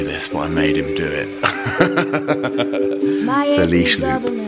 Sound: man laughing

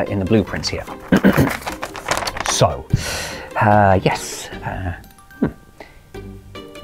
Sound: clears throat

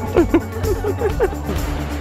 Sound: woman speaking Japanese, laughing

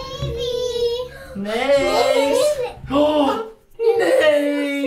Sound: gasping

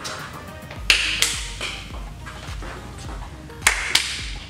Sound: clapping rhythmically

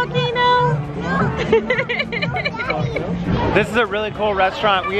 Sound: laughing

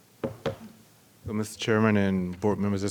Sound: clattering

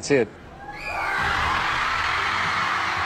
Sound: cheers

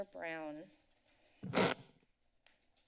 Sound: static sound

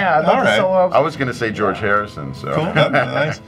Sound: laughs

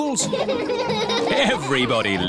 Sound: all laughing

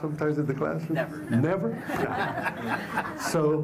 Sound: laughter

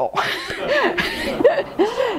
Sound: laughs

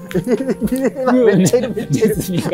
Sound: laughing

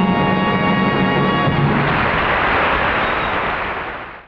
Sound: audience applauding

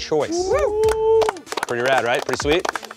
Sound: group cheers and claps; group claps

